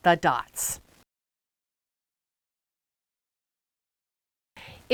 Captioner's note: no Sound Present